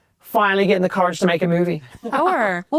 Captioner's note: laughs